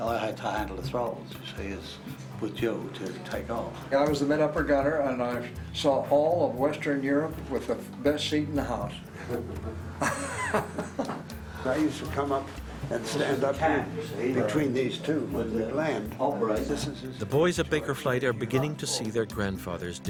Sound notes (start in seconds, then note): 9.2 laughs; 15.7 voiceover